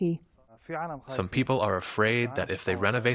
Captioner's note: through translator